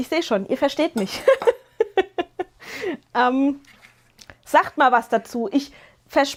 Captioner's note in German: gelächter